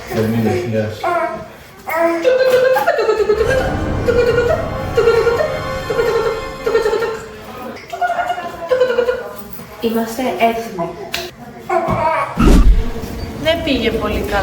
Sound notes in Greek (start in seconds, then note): 8.0 γέλια